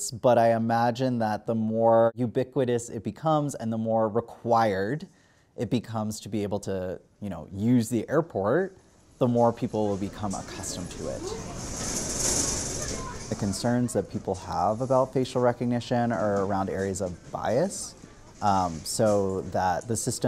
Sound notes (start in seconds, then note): 11.4 baggage on roller conveyor